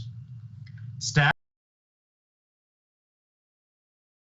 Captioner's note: voice cuts out